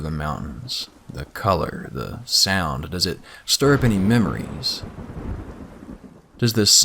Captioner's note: thunder sounds